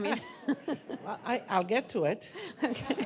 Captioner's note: laughing